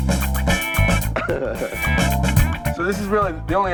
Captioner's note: sensual rock music; laughing